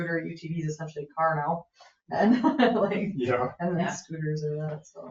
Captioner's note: laughs